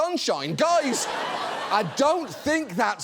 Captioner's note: studio audience laughs